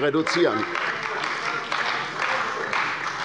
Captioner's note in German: Beifall bei der CDU und dem BÜNDNIS 90/DIE GRÜNEN